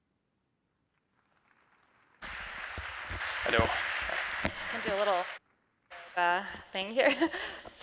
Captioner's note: applause